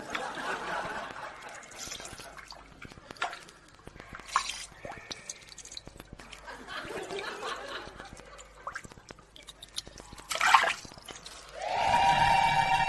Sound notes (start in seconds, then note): 0.0 audience laughs; 3.8 water dripping; 10.2 water splashing